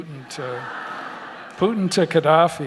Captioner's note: audience laughter